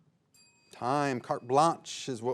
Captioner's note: bell dings